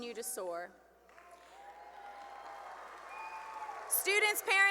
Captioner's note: cheering and applause